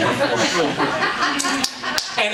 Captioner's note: audience laughing